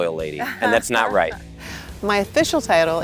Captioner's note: chuckles